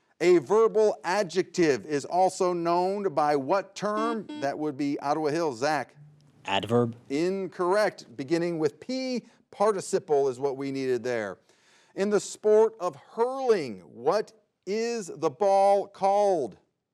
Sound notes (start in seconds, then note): 4.0 buzzer beeps